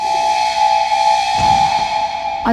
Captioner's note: Door closes